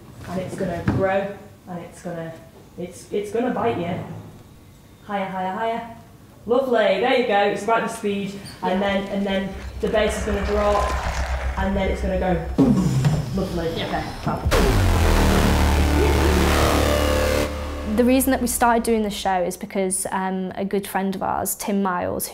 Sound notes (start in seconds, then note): 14.4 booom!